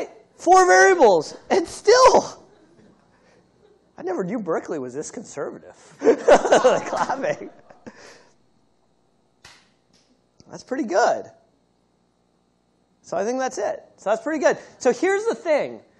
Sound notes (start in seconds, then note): 5.9 laughter